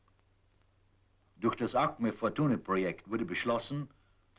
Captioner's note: in German